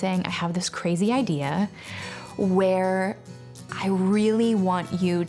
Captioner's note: none